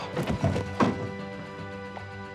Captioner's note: crack